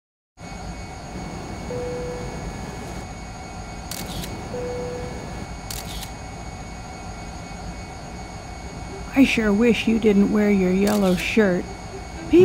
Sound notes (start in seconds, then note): 1.0 airplane ambience; 5.7 camera click; 10.8 camera click